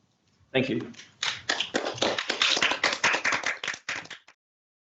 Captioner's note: applause